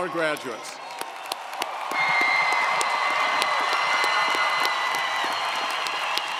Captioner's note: audience cheering & applauding